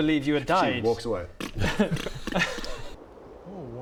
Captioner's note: pff ppt ppf pft pft